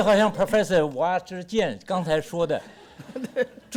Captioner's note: speaks Mandarin